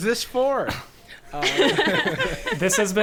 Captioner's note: players laughing